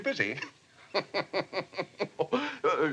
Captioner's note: chuckles